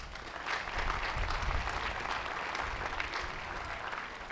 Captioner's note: applause